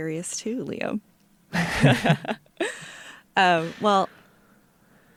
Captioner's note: laughter